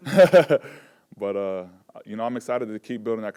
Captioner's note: laughs